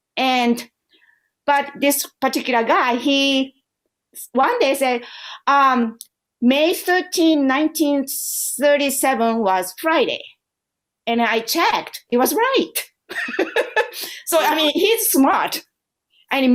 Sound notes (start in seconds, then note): 13.1 laughter